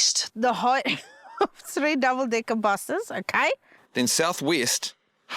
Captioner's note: laughs